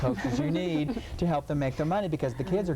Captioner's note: laughing